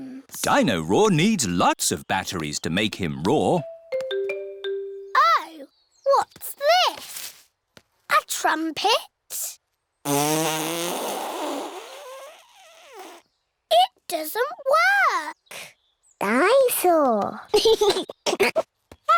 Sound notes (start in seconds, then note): 10.0 blows raspberry; 17.5 giggles